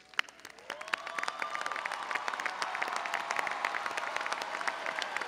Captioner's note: audience cheering and applauding